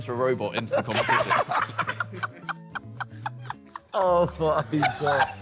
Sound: all laughing

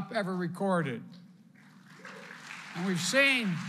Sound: applause

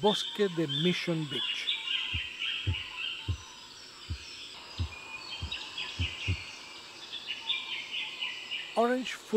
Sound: birds chirps and calls

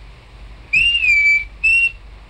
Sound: whistling

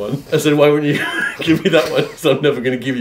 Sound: laughing

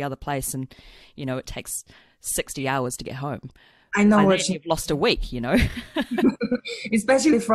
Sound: laughs

